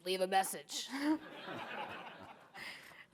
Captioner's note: audience laughing